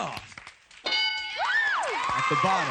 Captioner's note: ding